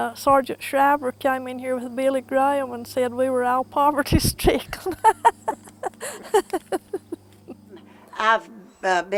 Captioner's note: laughter